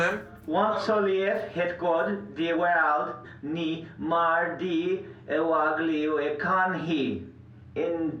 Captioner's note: foreign Language Spoken